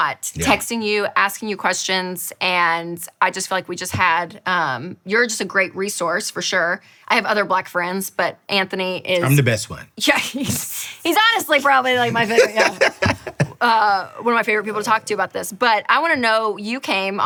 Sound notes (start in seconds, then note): 11.6 chuckles; 14.3 laughing